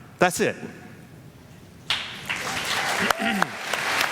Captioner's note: applause